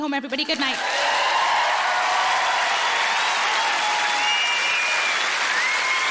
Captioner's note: audience cheering and applauding